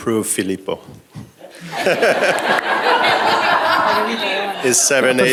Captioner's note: laughter